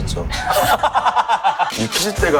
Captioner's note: laughing